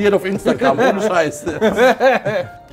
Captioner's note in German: Ulkiges Lachen